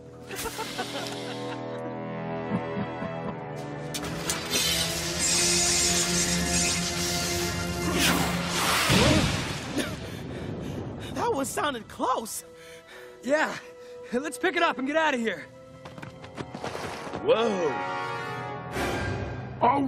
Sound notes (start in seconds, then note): 0.3 Jay and Herry laughing; 2.4 chuckling; 9.7 coughing, panting